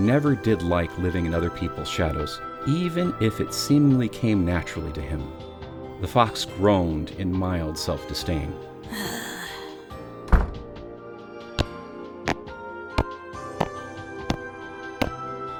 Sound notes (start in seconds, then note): 8.9 groans in mild-self disdain; 10.5 Tails walking slowly